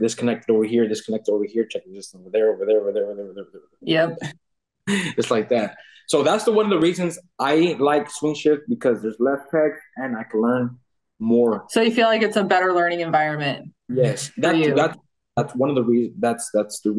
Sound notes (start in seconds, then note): 4.9 laughing